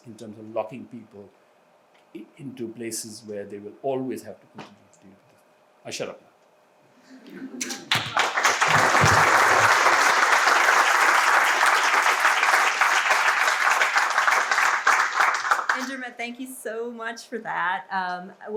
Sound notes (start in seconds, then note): 7.6 audience applauds